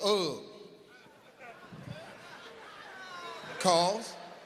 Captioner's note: audience laughs